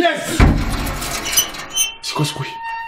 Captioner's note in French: Grincement aigu